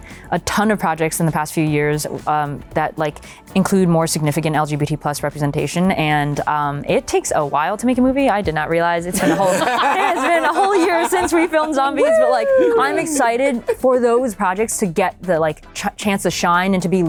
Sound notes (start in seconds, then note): 9.1 laughter